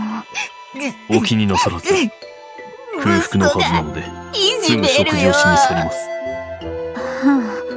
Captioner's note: sob